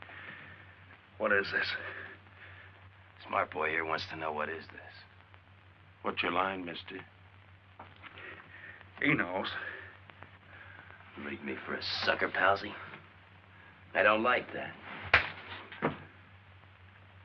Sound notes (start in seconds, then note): 15.0 slaps